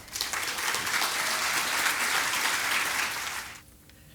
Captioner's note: applause